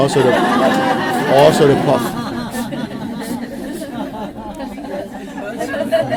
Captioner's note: laughter